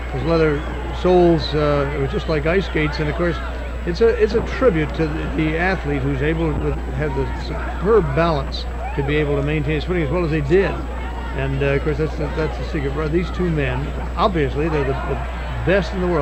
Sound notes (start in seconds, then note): 1.1 audience cheering; 3.9 wrestlers thudding; 15.1 audience cheering